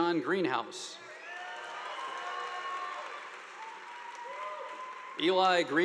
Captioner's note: audience applauding